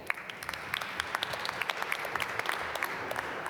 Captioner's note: applause